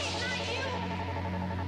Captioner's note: machine whirring